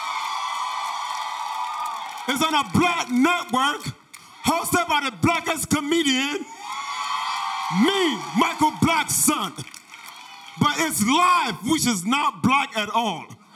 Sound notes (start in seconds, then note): 6.4 audience cheers